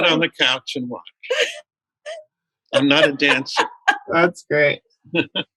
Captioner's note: laughter